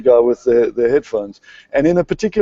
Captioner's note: laughter